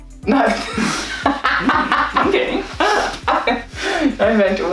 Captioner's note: laughs